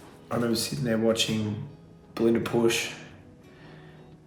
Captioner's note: sighs